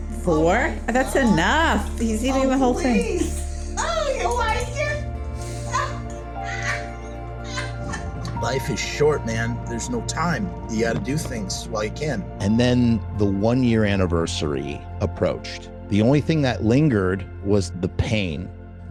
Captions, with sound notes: Four? - Oh my God. That's enough. He’s eating the whole thing. - Oh please! Oh, you like it?! [Disgustingly amused chuckling] Life is short, man. There's no time. You got to do things, while you can. And then the one year anniversary approached. The only thing that lingered was the pain.